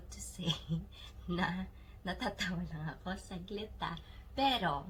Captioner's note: giggle